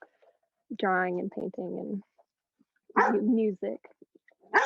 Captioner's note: dog barking